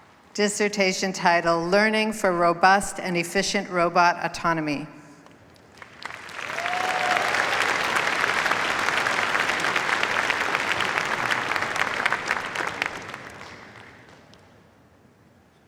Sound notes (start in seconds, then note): 5.7 cheers, applause